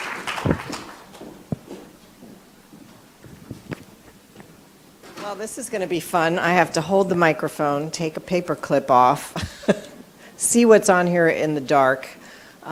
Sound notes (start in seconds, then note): 9.4 laughs